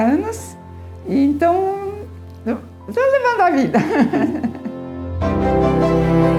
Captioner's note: laughs